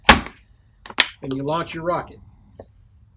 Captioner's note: banging